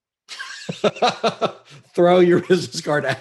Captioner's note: laughs